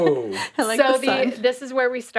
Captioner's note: laughs